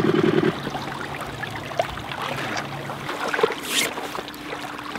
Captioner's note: water whooshing